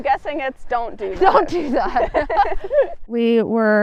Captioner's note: laughs